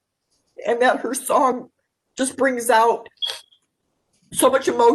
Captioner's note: sniffs